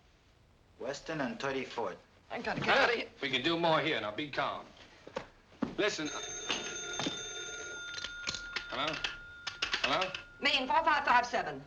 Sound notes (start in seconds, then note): 5.8 phone ringing